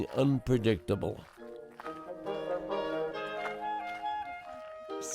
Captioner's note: crunching snow